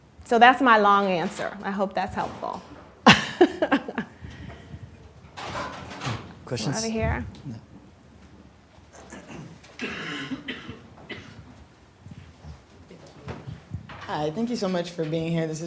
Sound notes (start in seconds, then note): 3.0 laughs